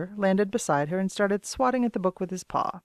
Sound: none

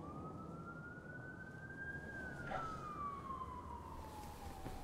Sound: sirens wail in distance

